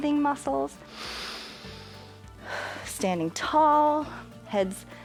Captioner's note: inhales and exhales